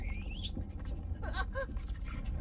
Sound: whimpering

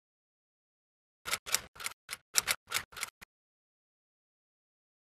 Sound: typewriter clacking

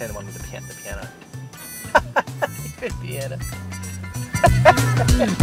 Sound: laughs

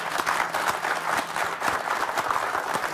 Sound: applause

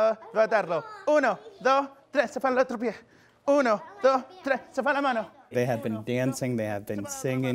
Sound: speaking spanish

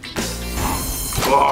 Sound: exclaiming

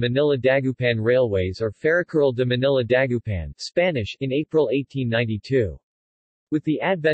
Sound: Spanish

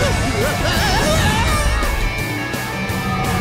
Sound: Crusher screaming

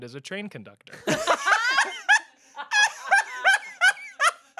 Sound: everyone laughs

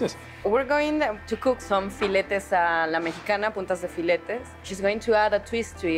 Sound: speaking Spanish

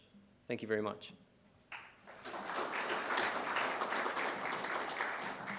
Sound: applause

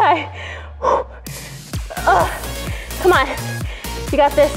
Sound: sharp exhale

